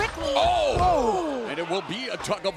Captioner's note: commentators exclaim